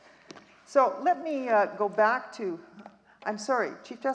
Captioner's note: none